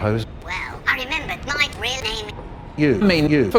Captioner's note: through speaker